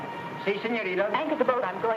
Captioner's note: speaks in foreign language